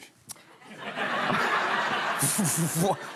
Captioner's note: laughter